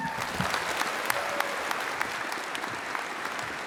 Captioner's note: cheering, applause